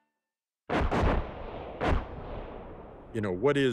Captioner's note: bombs exploding